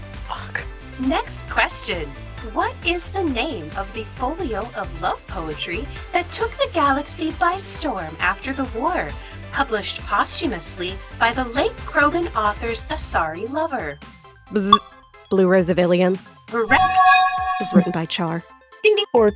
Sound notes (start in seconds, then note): 14.6 bzzt; 16.7 bell chimes